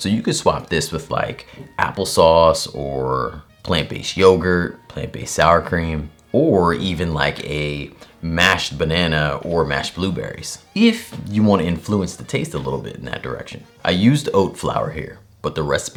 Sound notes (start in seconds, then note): none